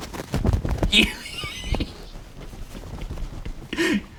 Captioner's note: laughing